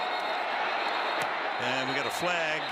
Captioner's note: whistle